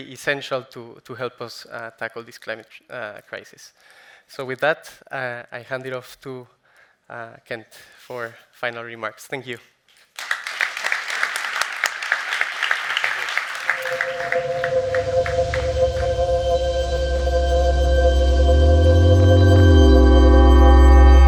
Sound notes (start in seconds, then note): 10.1 audience clapping; 13.8 suspenseful music